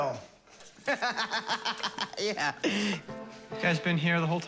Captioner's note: laughs